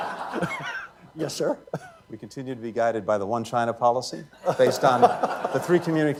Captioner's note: laughter